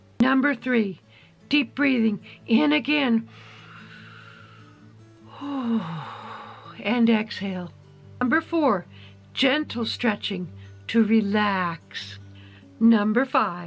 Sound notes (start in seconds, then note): 3.3 exhales; 3.3 inhales